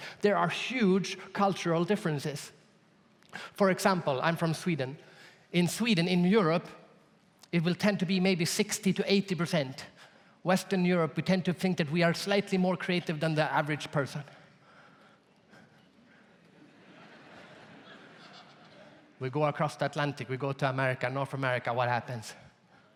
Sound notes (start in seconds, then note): 16.4 audience laughs